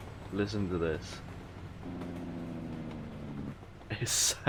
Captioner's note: engine brake roar